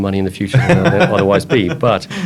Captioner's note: laughs